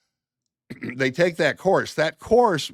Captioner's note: clears throat